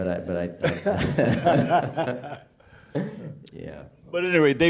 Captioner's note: chuckling